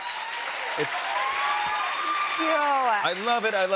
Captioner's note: cheers and applause